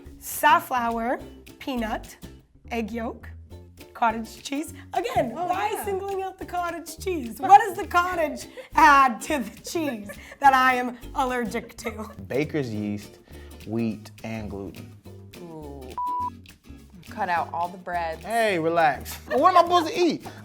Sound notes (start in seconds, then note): 16.0 beeps